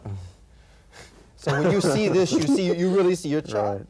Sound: laughs

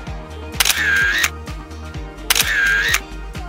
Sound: camera clicks

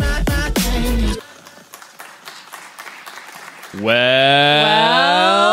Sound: offscreen clapping

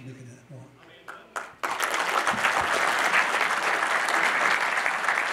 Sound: audience applauding

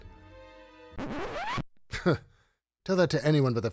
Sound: record scratches

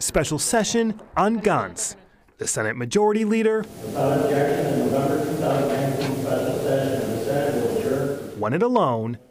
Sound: yelling

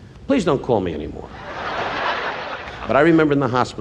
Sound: laughing

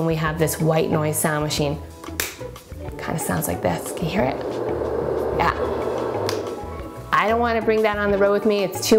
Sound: whooshing noise

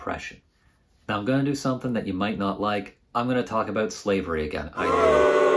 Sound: booing

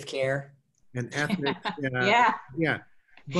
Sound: laughs

